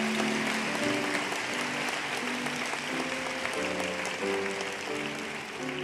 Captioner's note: applause